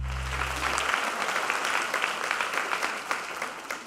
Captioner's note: applause